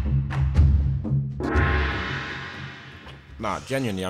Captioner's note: ominous drum music; gong banging